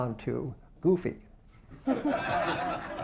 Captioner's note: laughter